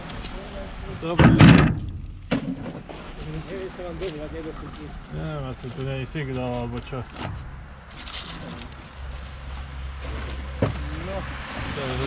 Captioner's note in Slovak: V pozadí rozhovor s vodičom odťahovej služby